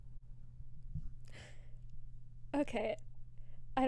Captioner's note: gasp